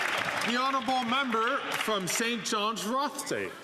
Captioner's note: some Applause